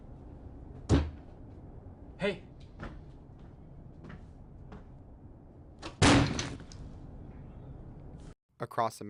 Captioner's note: slams desk